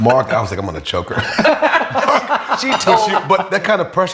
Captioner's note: all laughing